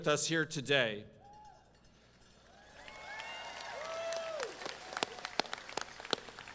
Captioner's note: crowd cheering and clapping